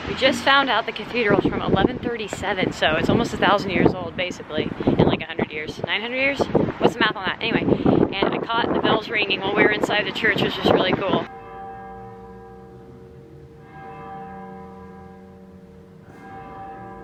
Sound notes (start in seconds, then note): 12.3 bells clanging